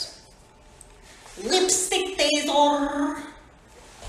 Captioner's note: gru accent